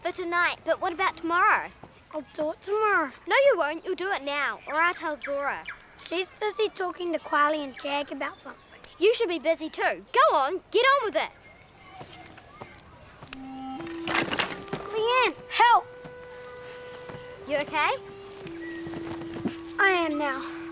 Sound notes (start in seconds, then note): 14.1 wood crashing